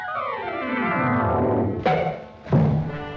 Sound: bonk!

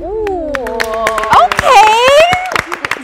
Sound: everyone clapping

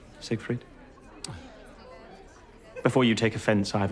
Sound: people chattering

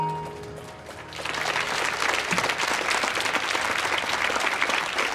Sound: audience applauding

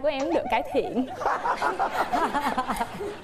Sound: laughing intensifies

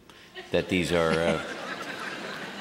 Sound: laughter

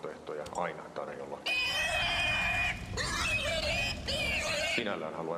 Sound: screaming pigs

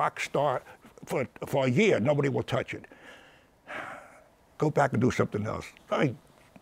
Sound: sighs

